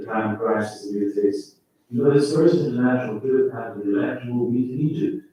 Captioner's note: faintly speaking